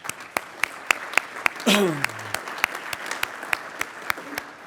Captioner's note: applauding